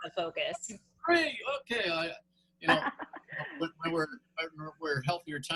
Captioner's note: laughter